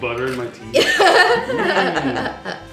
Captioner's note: laughing